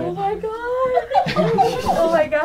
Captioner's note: crowd